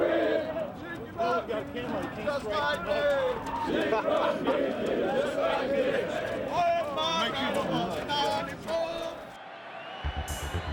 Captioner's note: crowd chatter; crowd cheering